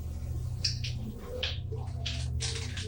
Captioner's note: clicking noises